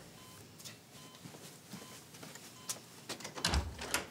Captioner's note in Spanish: Sonido del monitor